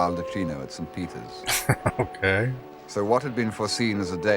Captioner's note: chuckling